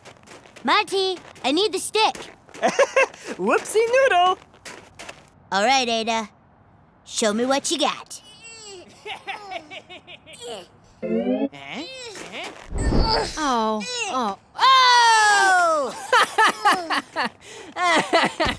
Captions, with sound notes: - Monty, I need the stick. (laugh) - Whoopsie noodle. - Alright, Ada, show me what you got. (stretching grunt and mischievous chuckle) - Oh, oh, oh! (mean laughing)